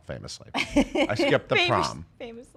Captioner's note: laughing